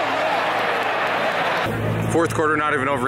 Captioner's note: crowd yelling